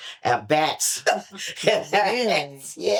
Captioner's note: laughter